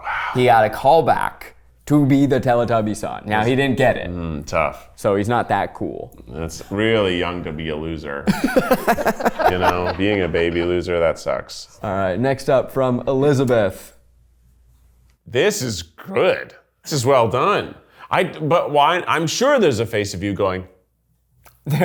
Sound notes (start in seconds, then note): 8.2 everyone laughs